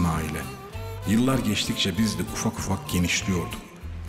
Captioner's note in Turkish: Ahmet dış ses